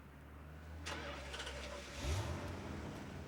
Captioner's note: engine starts